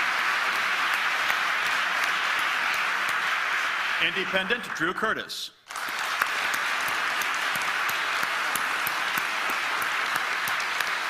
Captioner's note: applause